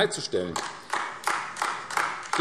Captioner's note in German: Beifall AfD